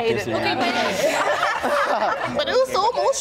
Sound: all talking and laughing; laughing

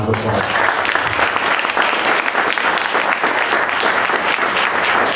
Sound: applause

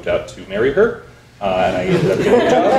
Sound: audience laughing

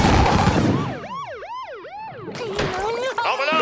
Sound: sirens blaring

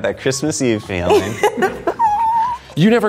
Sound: laughing

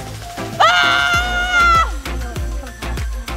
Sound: screaming

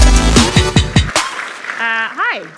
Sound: audience applauding

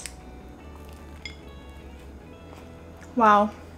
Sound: chews

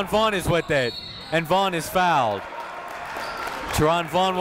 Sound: crowd applauds

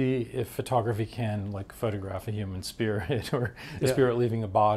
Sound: chuckles

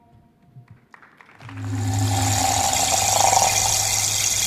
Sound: applause

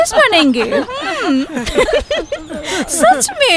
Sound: laughs

